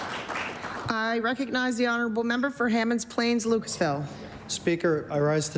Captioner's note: applause